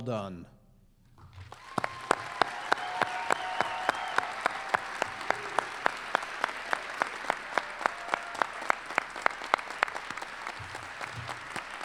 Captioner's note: applause